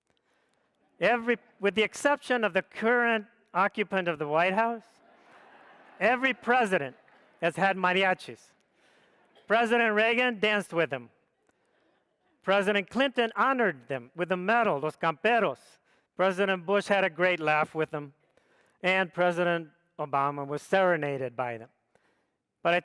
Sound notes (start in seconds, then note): 5.0 audience laughs